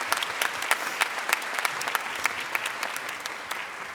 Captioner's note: applause